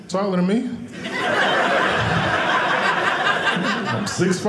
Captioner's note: audience laughing